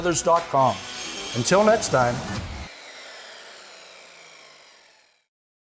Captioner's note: saw whirring